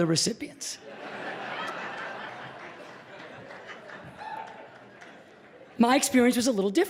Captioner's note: laughter